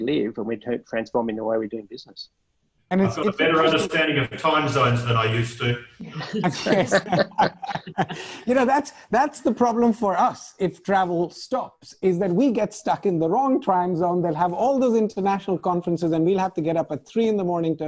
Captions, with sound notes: and we're transforming the way we're doing business. - And-- - Better understanding of time zones than I used to. (laughing) - That's the problem for us if travel stops, is that we get stuck in the wrong time zone. They'll have all those international conferences and we'll have to get up at three in the morning